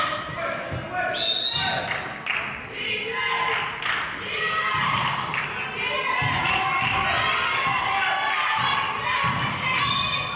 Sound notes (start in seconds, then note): 1.1 whistle blows; 3.5 clapping; 9.8 whistle blows; 10.1 clapping